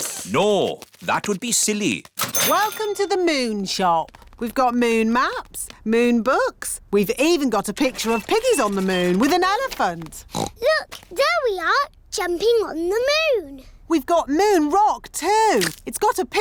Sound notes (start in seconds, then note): 10.2 oinks